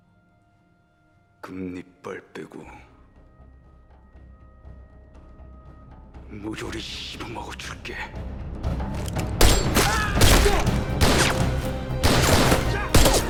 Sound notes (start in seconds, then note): 1.6 foreign language; 9.5 gunshots